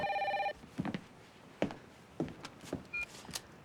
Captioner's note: phone rings